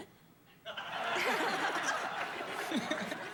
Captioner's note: laughter